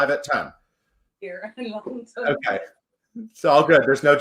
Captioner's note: laughs